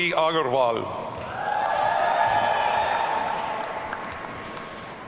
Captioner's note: audience cheering